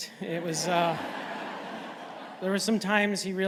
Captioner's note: laughter